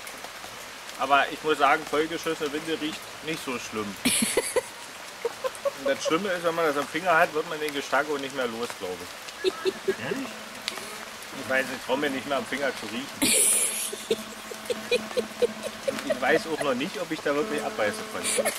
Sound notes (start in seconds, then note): 13.5 quiet evil laughing